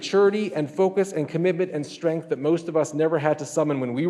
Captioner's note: none